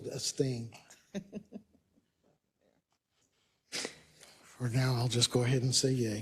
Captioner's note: laugh